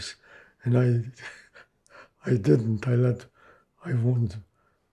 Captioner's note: laughing